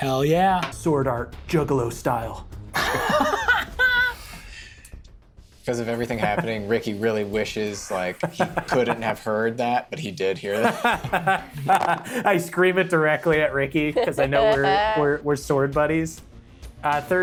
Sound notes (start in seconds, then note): 2.7 Brennan laughs; 10.5 laughs